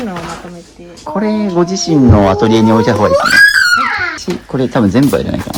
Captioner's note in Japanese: 叫び声